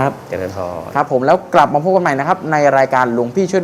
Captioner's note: none